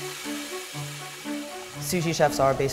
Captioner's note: water sloshing